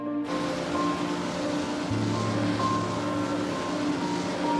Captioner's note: engine roaring